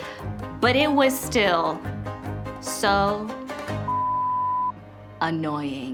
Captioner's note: beep